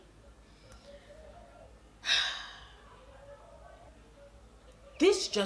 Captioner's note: deep Sigh